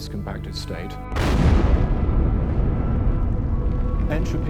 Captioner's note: explosion booms